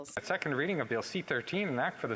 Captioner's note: speaking French